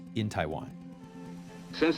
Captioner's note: soundbite of archived recording